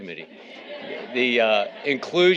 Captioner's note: audience laughing